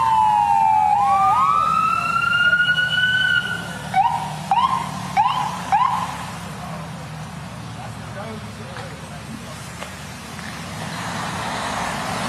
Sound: sirens

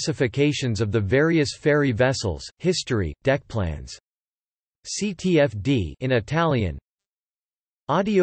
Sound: in Italian

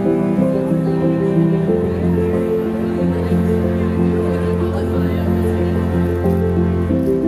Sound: picnicking guests chattering indistinctly

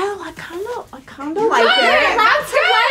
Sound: women yell

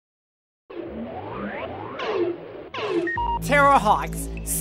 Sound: electronic beeping

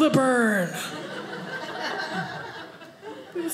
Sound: audience laughing

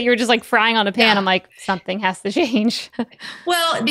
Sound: laughs

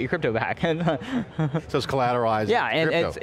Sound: laughs

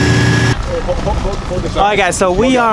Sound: motor humming; crew chattering

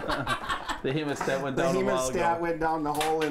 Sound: laughter

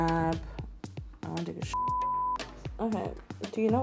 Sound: beep

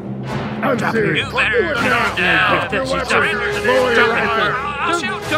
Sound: more Overlapping shouting

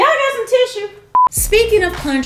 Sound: beep

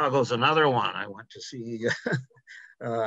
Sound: chuckles

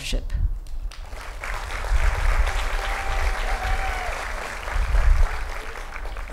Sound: applause

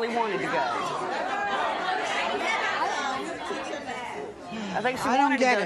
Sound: audience talking excitedly

